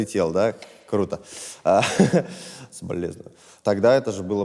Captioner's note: laughs